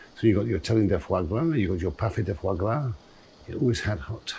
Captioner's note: speaking in french